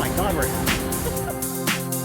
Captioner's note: giggles